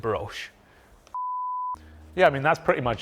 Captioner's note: screen beeps